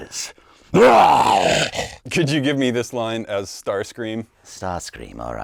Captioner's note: growls